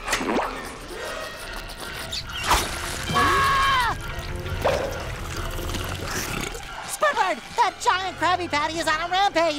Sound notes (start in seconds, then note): 3.0 screams; 5.5 belching